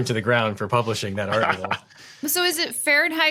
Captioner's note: laughs